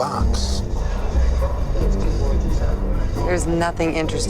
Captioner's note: people chattering